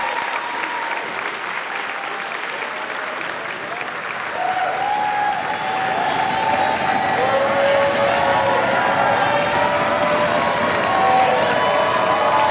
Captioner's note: applause and cheers